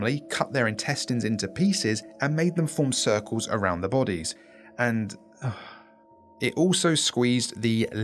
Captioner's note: sigh